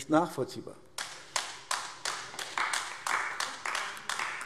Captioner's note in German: Beifall AfD